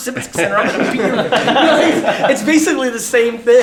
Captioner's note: laughter